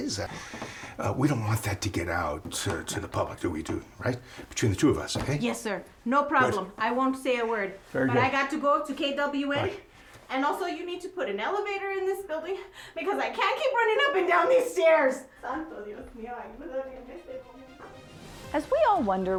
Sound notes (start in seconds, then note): 15.6 Carlotta muttering in Spanish; 16.9 dramatic music